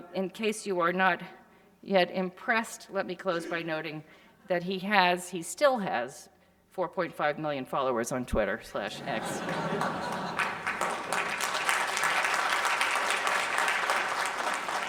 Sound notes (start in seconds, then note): 8.8 audience laughing; 10.9 audience applauding